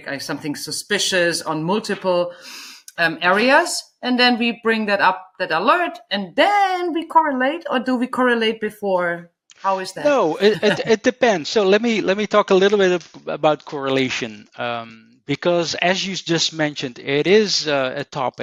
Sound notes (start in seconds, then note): 10.1 chuckles